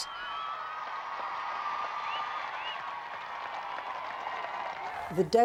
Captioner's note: audience applauding